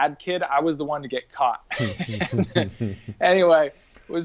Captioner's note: laughs